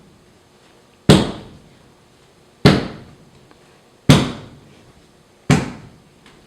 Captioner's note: stomping